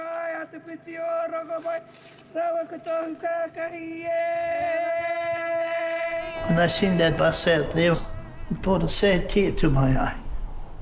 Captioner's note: chanting in Maori